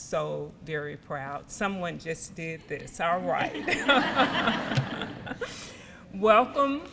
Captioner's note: audience laughter